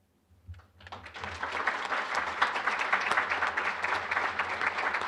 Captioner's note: applause